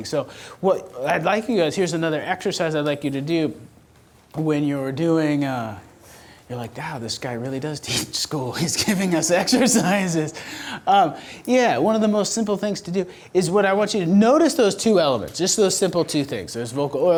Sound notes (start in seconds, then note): 8.6 laughs